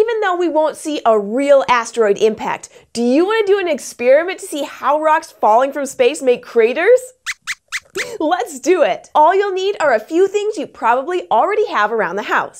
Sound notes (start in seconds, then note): 7.2 squeaks squeaks